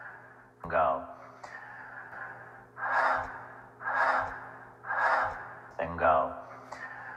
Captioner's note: inhaling and exhaling air; inhaling air